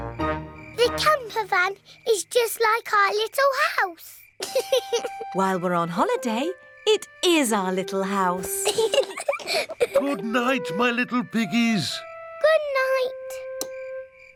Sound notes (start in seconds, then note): 4.4 george laughs; 8.5 both laugh